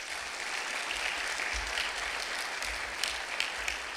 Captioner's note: clapping